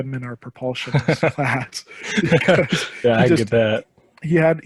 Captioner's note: laughing